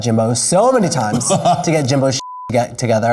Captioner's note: laughing